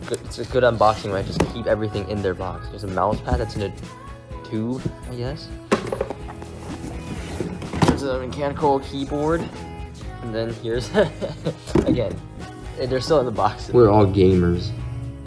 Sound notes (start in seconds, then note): 10.8 laughter